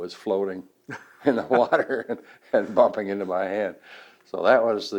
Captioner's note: both laugh